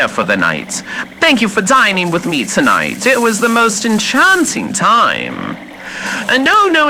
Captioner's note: walking through brush quickly fx